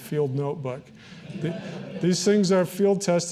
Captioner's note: audience laughing